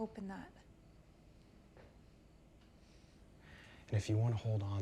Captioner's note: crickets chirping